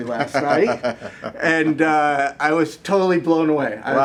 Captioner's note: laughs